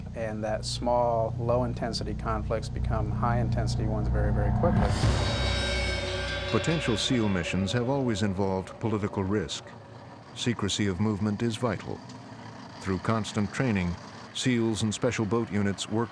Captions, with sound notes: and that small, low-intensity conflicts become high-intensity ones very, very quickly. - [Voiceover] Potential SEAL missions have always involved political risk. Secrecy of movement is vital. Through constant training, SEALs and Special Boat Units work